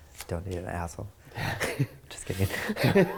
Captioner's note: laughing